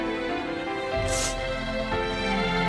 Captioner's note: sniffles